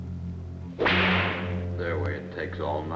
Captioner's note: whip cracks